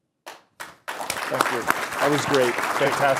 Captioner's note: applause